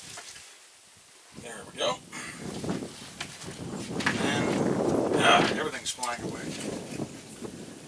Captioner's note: ugh!